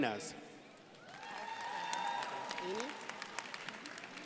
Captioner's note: crowd applauding